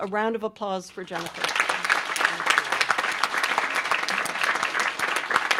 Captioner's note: applause